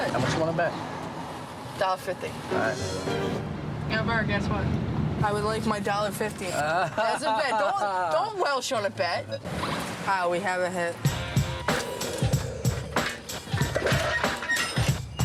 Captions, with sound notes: How much you want to bet? $1.50. All right. Guess what? I would like my $1.50. [laughs] Don't welsh on a bet. We have a hit. [rock music]